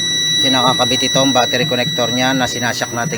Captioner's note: no connection warning sound